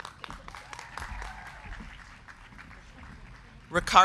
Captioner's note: crowd cheering; crowd clapping